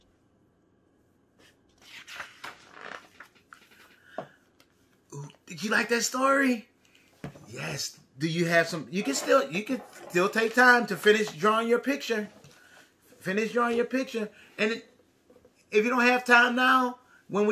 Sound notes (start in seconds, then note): 1.7 paper flipping